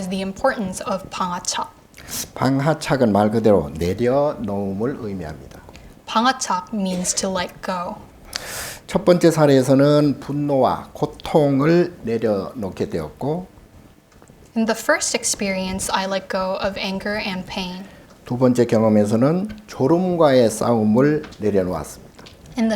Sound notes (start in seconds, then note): 1.4 speaking Korean; 18.5 speaking Korean